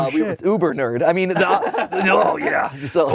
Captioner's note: both laugh